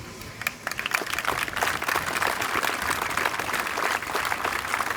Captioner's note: applause